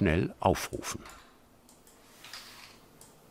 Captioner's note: click